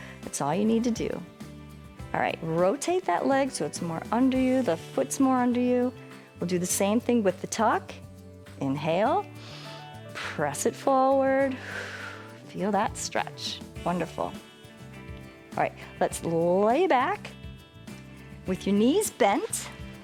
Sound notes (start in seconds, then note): 11.5 inhales; 11.5 exhales